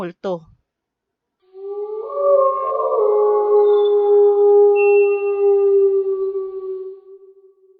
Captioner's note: wolf howling